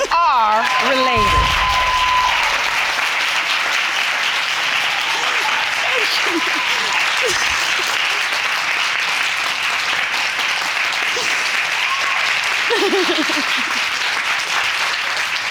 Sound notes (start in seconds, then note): 2.2 audience cheering, applauding; 7.5 sobbing; 11.1 sniffles; 12.4 laughs